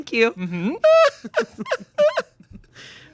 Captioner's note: laughing